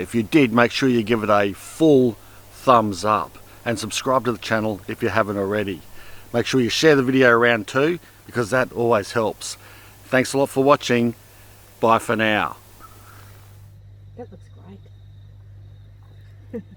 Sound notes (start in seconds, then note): 16.4 chuckles